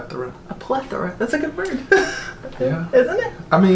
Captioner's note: laughs